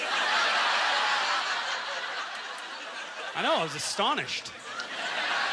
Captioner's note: audience laughter